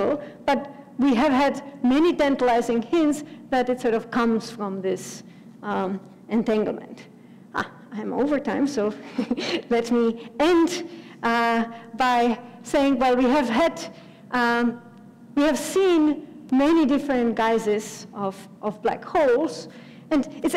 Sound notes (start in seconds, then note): 9.0 laugh